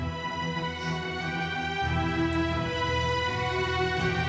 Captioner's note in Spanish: suspiros